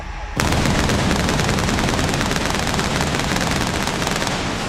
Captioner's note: pyro booming